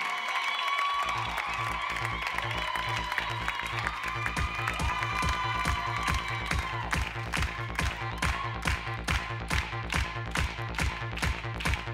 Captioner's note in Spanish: Palmadas al compás